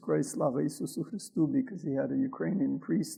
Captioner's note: speaks in foreign language